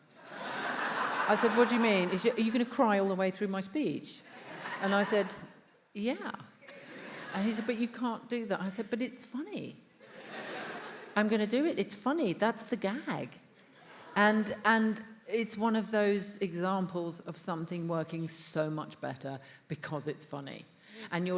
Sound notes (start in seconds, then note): 0.2 attendees laughs; 10.0 attendees laughs